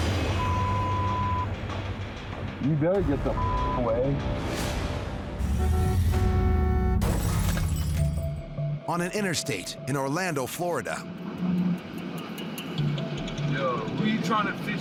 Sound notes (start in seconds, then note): 5.1 glass shatters; 5.4 vehicle honks